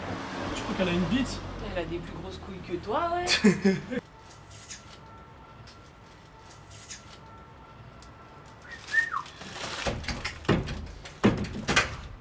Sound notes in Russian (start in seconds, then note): 3.3 смех; 8.6 свист